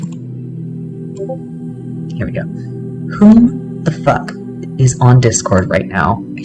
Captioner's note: Discord bloop